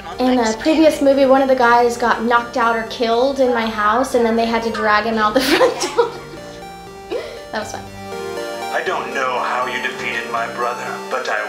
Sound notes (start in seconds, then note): 4.5 laughing